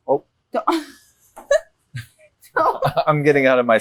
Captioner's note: Nora laughing